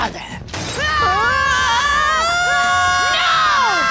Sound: screaming

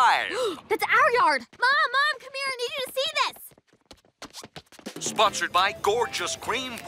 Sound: gasps

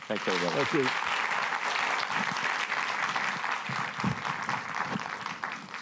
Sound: applause

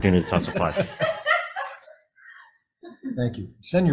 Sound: everybody laughs

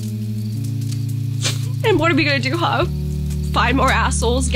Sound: sniffles

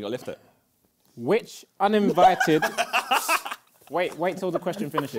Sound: laughter

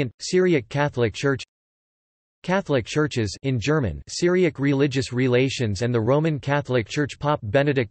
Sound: in German

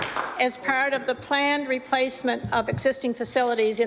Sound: applause

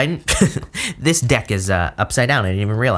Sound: laughs

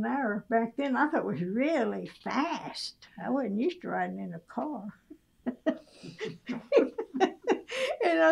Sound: laughs

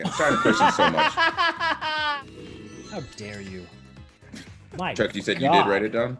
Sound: laugh

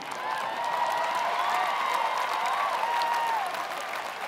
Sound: applause

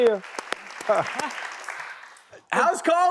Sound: clapping

